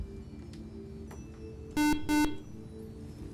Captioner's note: buzzer